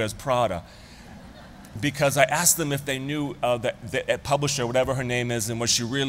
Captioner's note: laughter